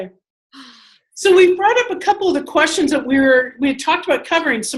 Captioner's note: sighing